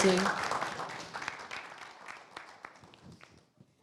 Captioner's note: audience applause